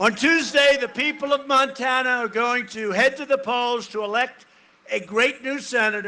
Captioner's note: cheering and applause